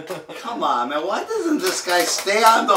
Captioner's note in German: Gelächter